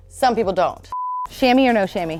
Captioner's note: beep